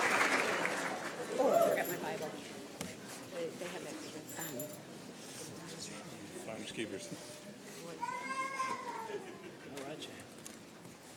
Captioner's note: applause